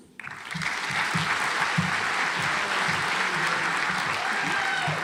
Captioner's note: audience applauds